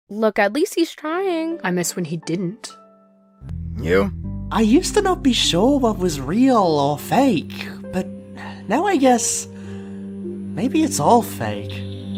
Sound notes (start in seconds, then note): 9.6 sigh